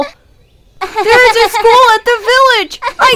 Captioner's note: Acela giggling